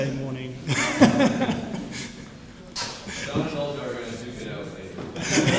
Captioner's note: laugh